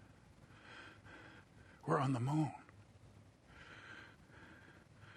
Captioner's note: breathing heavily